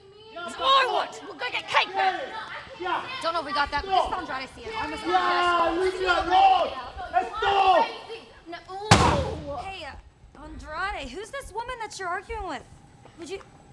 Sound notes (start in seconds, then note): 7.4 screaming; 13.4 speaking spanish